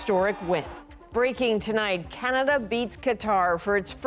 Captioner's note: cheers and Applause